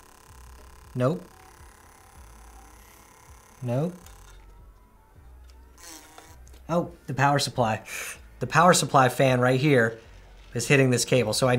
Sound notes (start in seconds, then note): 4.6 buzzing sound